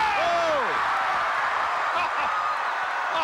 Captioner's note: audience cheering